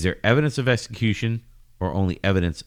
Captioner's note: uh